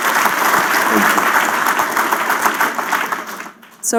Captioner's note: applause